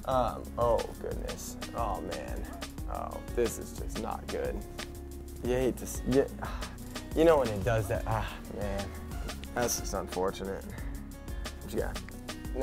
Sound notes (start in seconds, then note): 6.3 sigh